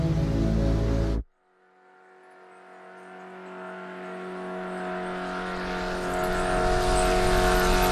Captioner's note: engine whining